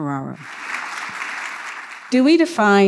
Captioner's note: audience applauding